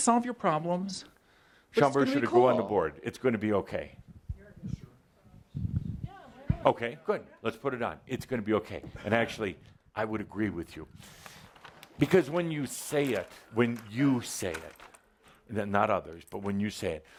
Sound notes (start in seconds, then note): none